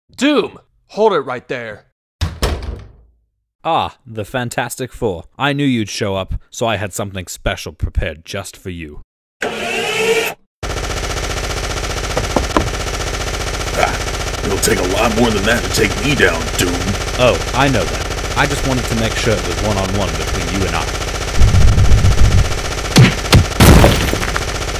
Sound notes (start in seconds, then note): 2.2 door shutting; 9.2 guns readying; 11.7 gunfire; 12.1 footsteps; 17.2 gunfire; 20.9 crashing sounds; 20.9 gunfire; 20.9 large footsteps